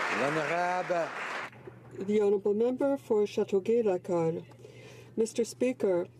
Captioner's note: applause